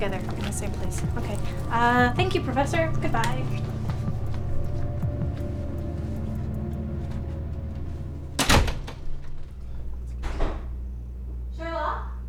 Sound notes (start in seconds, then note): 7.0 door Shuts; 10.0 door Opens